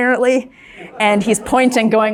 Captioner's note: crowd laughs